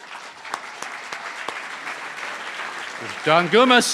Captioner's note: cheering & Applause